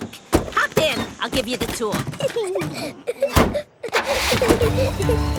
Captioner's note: Peppa and George laughing